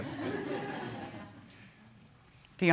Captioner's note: audience laughs